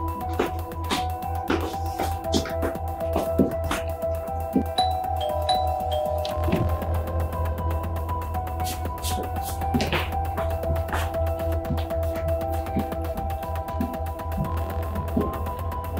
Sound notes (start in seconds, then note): 4.7 doorbell chiming; 9.0 footsteps